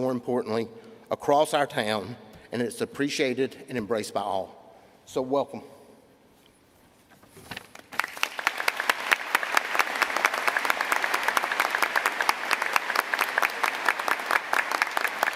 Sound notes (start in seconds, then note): 4.6 applause